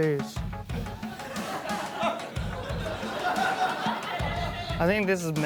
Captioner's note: laughter